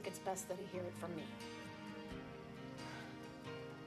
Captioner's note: sighs